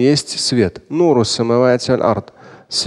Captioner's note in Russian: Говорит на арабском